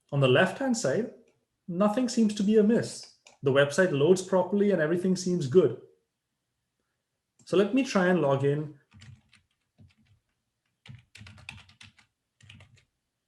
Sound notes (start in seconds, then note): 10.6 typing